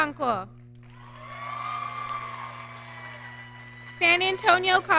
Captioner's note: audience cheering